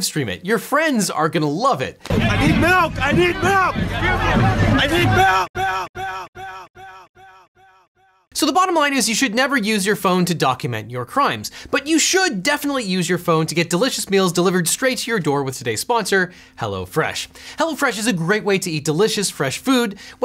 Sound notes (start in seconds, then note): 5.1 echoing